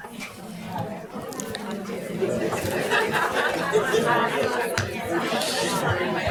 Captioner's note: audience talking among themselves